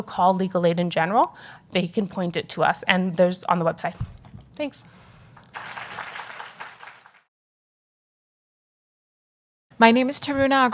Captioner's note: applause